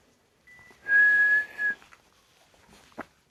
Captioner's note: is whistling